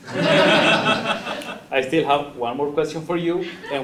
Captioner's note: laugh